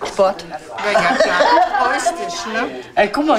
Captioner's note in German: Lachen, Wirbel